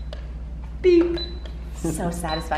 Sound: toy beeping

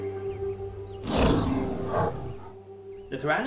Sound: animal roars

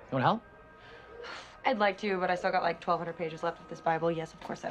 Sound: sighs

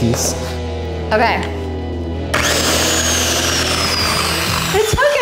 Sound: saw whirring

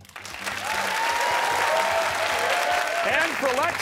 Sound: cheers and applause

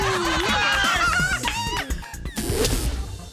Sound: laughter

